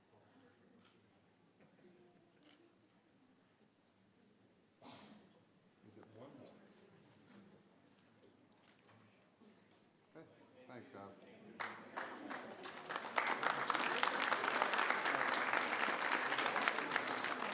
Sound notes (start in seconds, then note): 11.5 applause